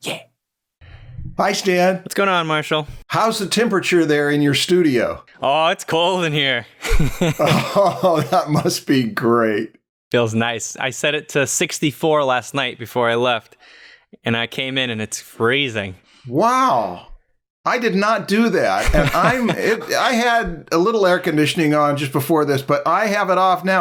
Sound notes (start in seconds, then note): 6.8 chuckles